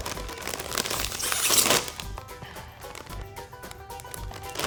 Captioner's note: packet crinkling